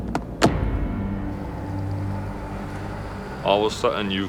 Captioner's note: engine turns over; gears click